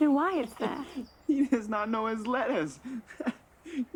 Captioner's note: laughs